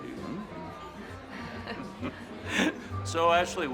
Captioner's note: all chuckling